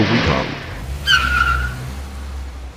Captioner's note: engine Driving